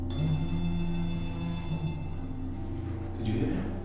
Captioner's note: phone rings